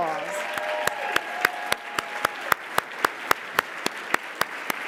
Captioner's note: audience applauding